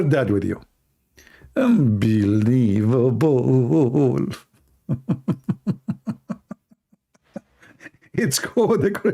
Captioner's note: Ketawa